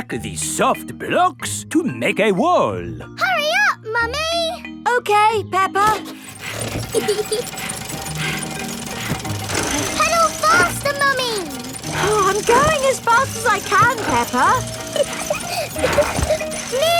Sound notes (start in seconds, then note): 6.7 mummy pig panting; 6.8 peppa laughing; 14.9 peppa laughing